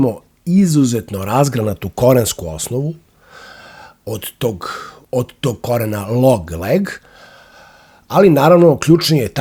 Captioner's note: sigh